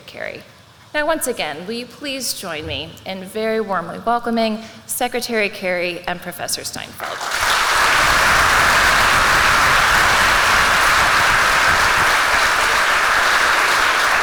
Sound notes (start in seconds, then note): 7.0 applause